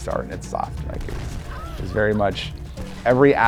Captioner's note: Lara gasping